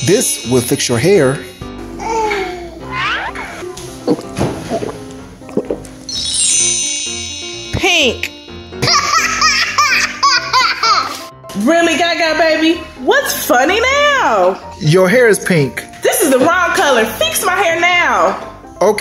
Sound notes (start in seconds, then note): 4.8 gulping; 8.8 laughing